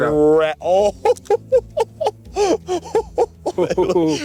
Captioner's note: laughing